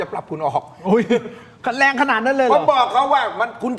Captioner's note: laughs